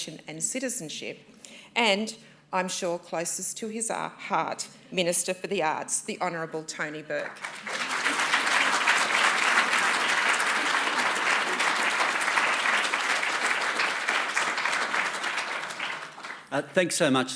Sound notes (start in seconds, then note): 11.4 applause